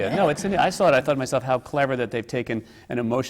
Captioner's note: laughter